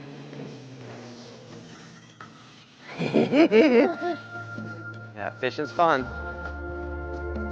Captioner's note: laughing